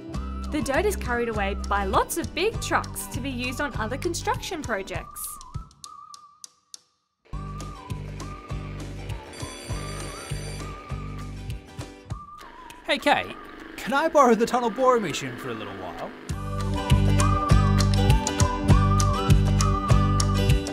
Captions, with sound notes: The dirt is carried away by lots of big trucks to be used on other construction projects. (school bell rings again) Hey Kate, can I borrow the tunnel boring machine for a little while...?